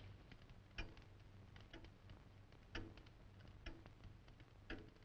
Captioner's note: clock ticking